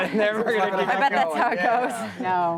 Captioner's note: laughter